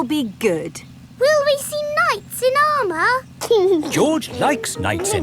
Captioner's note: giggling